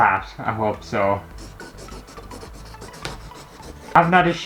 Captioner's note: pen Scraping On Canvas